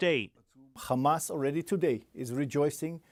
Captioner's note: speaking alternate language